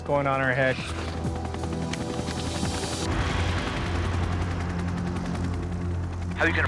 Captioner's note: dramatic music; helicopter blades thudding